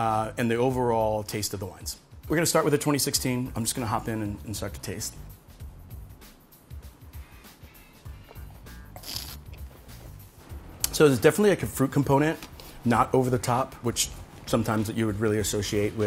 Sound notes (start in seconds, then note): 8.9 slurps